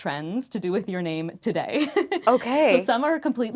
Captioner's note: laughing